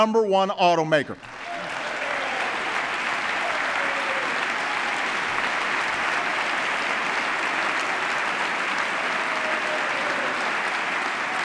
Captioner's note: applause